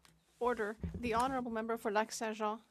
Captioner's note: speaking French